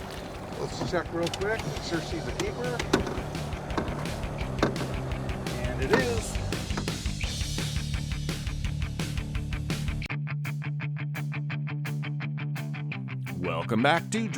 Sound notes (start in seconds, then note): 6.9 fumbling